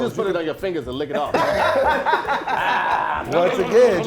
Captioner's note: laughing